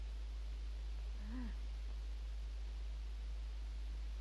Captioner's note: mother moans